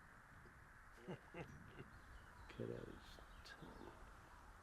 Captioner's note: chuckling